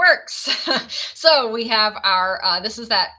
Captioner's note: laughs